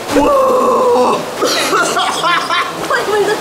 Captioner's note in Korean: 콜록콜록